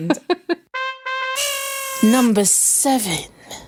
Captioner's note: both laughing